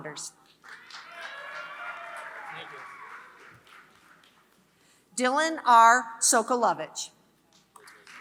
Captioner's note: applause; applause